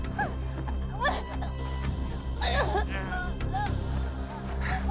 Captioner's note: Nicole gasping